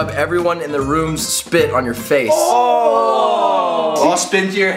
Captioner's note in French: gémissements